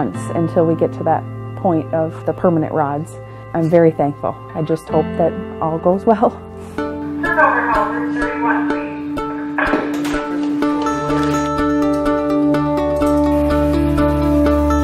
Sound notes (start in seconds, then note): 6.7 lady speaking over intercom; 6.8 upbeat music